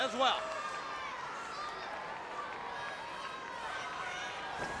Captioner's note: crowd yelling